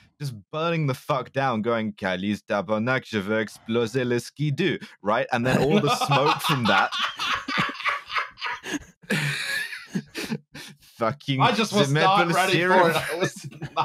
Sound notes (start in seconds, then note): 5.4 collapses into mini-Joker laugh